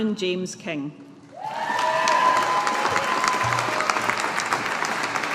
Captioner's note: audience applauding